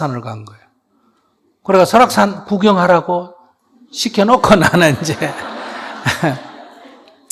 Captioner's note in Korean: 스님/청중 웃음